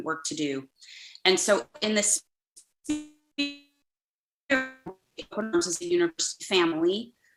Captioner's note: distorted audio